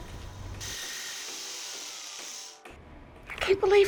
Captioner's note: power tools whirling